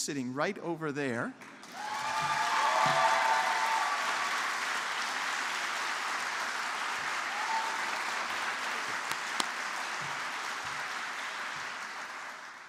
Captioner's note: applause